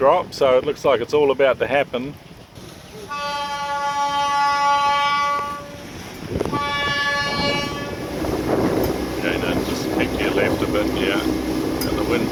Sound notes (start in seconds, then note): 3.1 horn